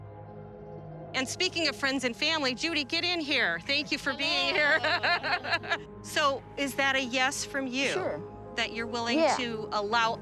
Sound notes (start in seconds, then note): 3.8 laughs